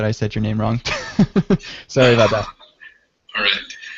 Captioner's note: laughs